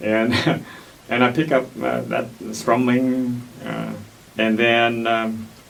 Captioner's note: laughs